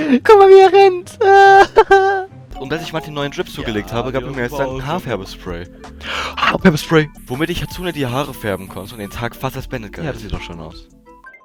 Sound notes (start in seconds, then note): 1.2 sweet laugh